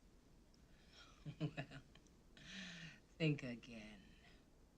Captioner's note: chuckles